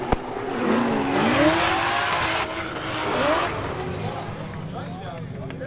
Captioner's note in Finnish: Aplodeja